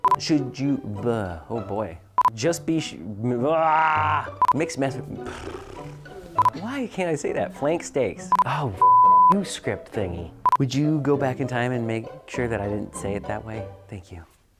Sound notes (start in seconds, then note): 5.2 blows raspberries; 8.8 beep